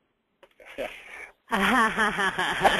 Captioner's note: everyone laughs